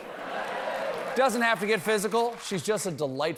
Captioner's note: laughter